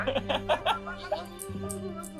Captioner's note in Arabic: يضحك المدرب